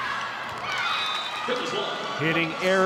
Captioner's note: audience cheering